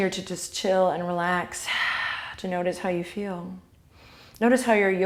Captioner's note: exhale